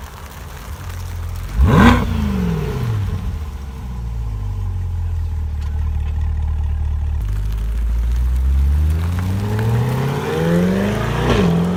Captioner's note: 2022 Corvette C8 Stingray Exhaust Sounds